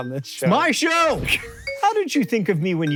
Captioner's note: shouting